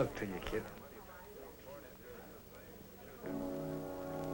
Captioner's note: chattering